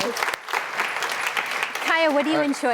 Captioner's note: applause